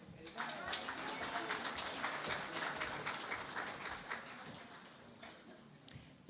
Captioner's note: applause